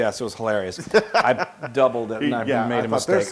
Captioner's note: laugh